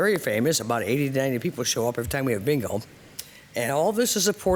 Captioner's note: audio skipping